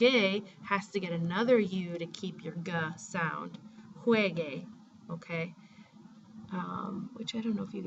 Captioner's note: spanish